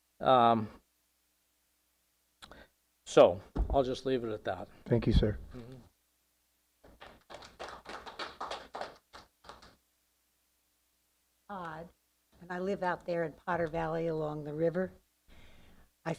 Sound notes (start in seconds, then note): 10.1 applause